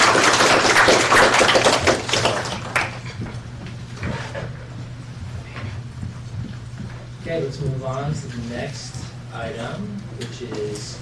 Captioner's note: applause